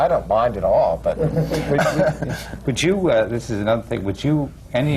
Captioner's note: laughter